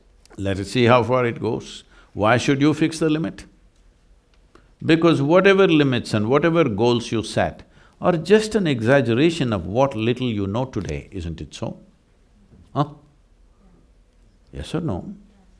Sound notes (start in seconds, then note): none